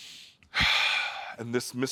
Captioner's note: inhales deeply; exhales